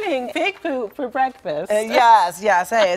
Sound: laughter

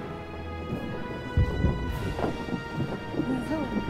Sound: pitter patter

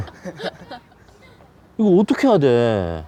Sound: scornful laugh

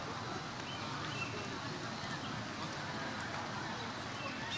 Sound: none

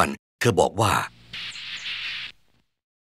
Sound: monkey noise

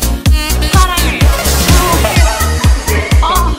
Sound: laughs

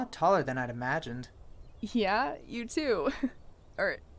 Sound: chuckles

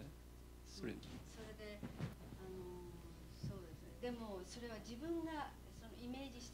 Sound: non-english speech

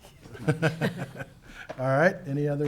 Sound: laughing

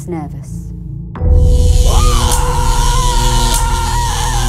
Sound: screaming

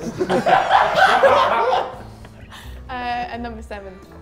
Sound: everyone laughs

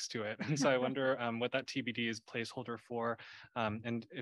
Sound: laughter

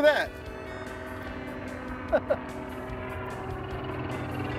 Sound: helicopter rotors

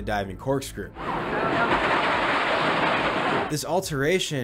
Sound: sound of steel rolling on steel

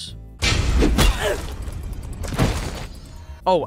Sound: clang

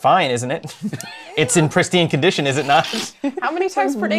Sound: laughter

